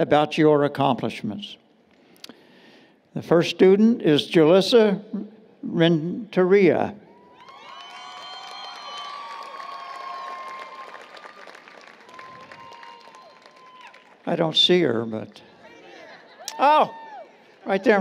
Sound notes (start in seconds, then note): 7.2 applause, Cheering